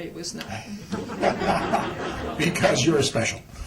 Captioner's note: laughter